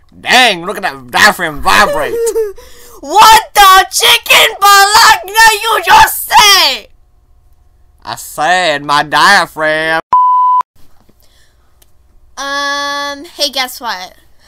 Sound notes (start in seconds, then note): 1.8 laughter